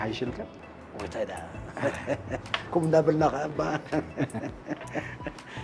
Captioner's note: laughs